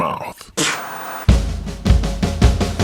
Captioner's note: mimics spitting; upbeat music